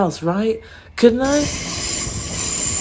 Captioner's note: loud train